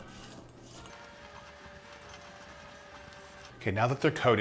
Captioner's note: rapid humming